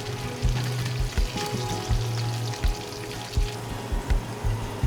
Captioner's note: sizzling